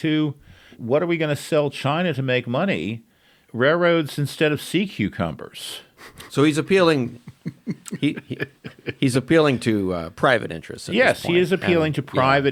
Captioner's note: laughs